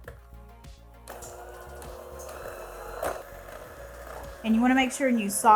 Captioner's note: mixer whirring